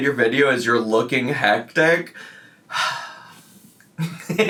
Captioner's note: sighs